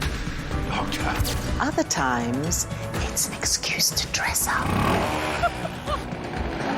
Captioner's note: whispers